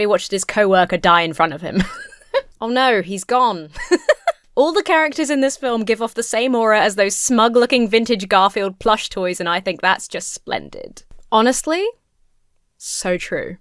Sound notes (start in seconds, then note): 1.7 laughs; 3.7 laughs